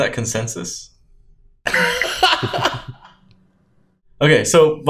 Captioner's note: laughs